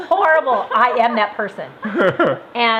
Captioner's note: laughs